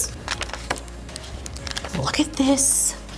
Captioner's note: pages flapping